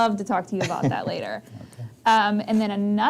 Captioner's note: laughs